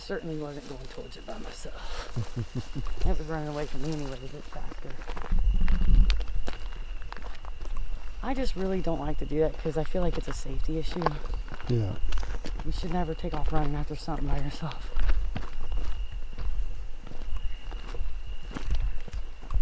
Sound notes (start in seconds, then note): 5.4 insects chirping